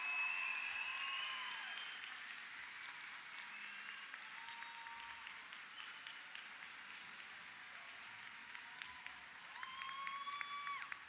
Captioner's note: applause